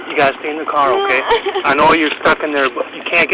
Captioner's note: crying